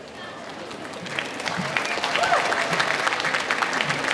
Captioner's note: applause